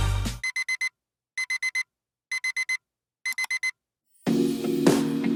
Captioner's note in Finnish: Piip piip